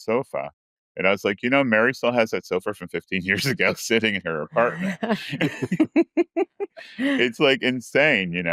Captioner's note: laughs